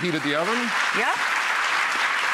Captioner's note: audience applauding